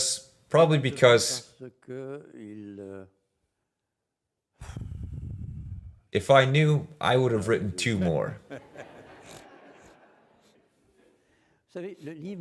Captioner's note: laughs